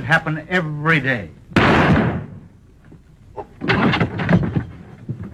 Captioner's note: gun fires